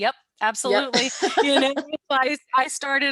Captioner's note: laughter